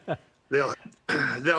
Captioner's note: laughter